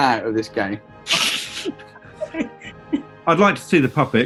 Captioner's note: giggling